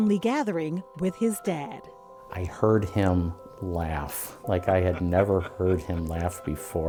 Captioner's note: laughter